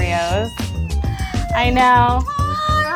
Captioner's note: squealing